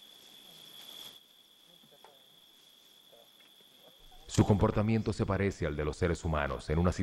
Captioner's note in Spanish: murmullos